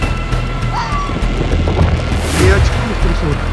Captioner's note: dog sound